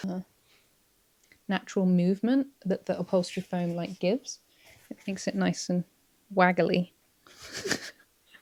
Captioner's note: giggles